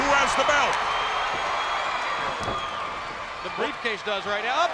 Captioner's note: crowd cheering